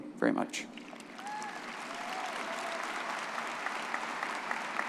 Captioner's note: crowd cheering